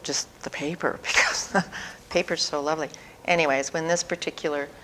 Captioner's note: laughter